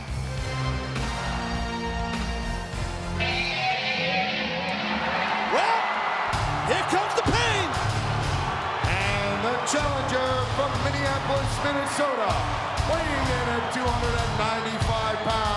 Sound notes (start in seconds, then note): 3.5 rock music; 5.2 audience cheering and clapping; 8.6 audience booing and cheering